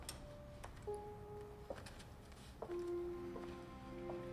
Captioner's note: shoes clacking